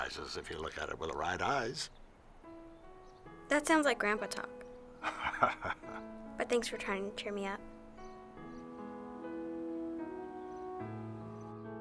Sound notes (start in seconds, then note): 5.0 laughing; 8.3 gentle piano music